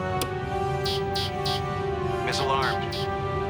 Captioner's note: beeps